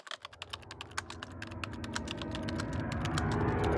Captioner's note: typing